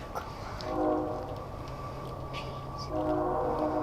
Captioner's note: train horn